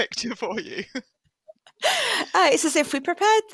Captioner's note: laughter